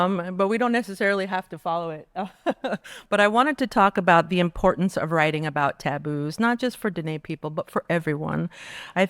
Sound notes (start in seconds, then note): 2.2 laughing